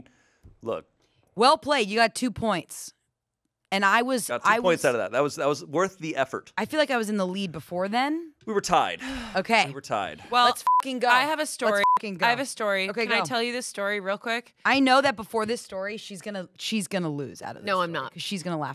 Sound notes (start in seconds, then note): 11.6 beep